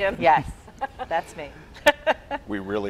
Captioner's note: laughing